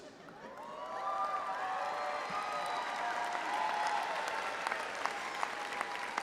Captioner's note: all laughing and cheering an applauding